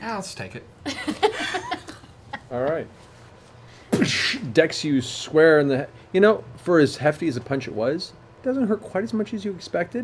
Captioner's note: impact sound